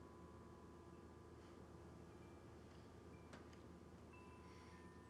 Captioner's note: chimes softly clanging